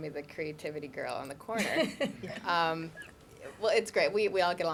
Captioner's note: laughter